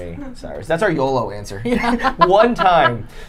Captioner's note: laughing